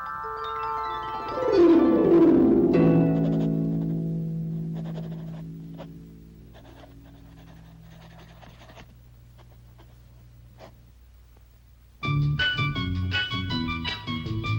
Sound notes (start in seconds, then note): 0.7 soft music; 4.6 pencil scratching softly; 12.0 soft upbeat music